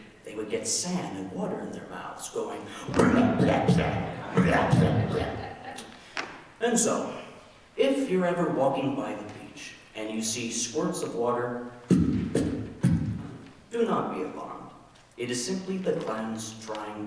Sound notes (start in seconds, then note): 2.8 spitting and blustering; 5.0 audience laughing; 11.9 spitting